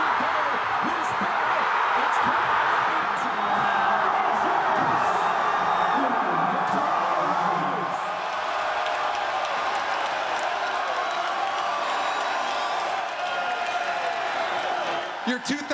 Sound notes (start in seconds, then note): 4.8 cheers and Applause